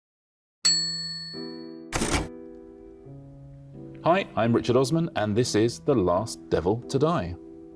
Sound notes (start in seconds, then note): 1.9 keyboard clacks; 2.2 slow piano music